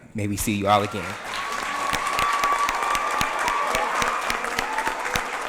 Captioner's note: audience applauds